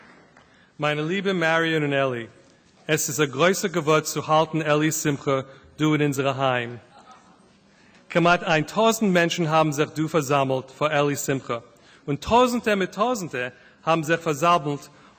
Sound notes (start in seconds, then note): 0.0 applause; 2.8 Yiddish